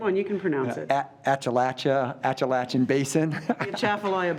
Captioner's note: laughs